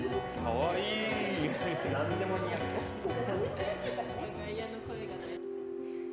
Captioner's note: crowd